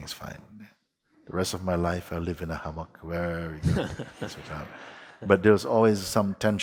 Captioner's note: laughter